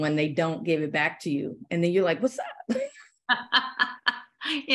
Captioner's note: laughter